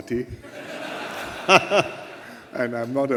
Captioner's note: laughter